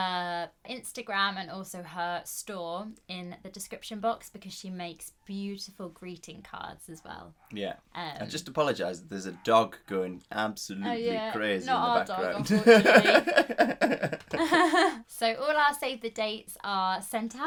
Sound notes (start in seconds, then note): 14.7 laughing